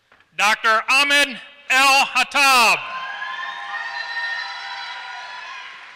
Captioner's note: applause